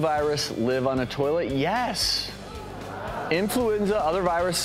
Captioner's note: gasping